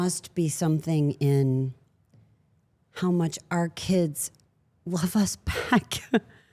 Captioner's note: chuckles